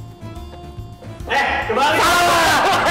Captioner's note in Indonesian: hahaha